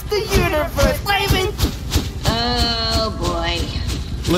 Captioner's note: flapping